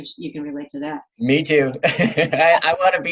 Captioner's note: laughs